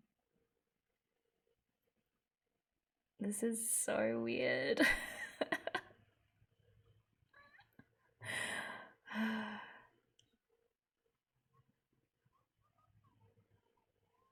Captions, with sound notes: This is so weird! [laughs] [sighs]